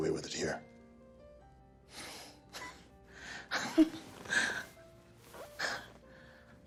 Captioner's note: laughing